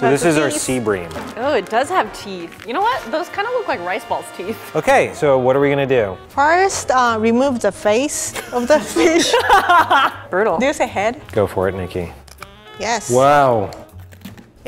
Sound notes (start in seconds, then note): 8.3 laughs